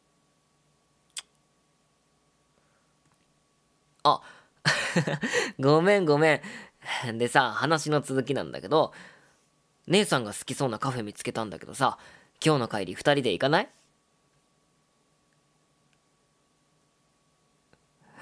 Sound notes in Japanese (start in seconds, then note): 1.1 舌打ち